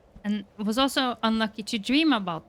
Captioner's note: none